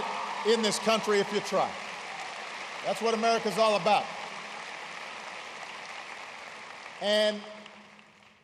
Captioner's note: applause